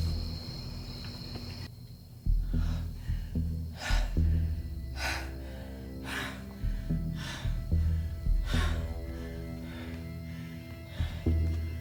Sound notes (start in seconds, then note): 2.5 Caroline panting; 7.6 dramatic music